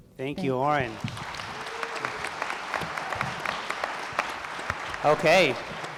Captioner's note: applause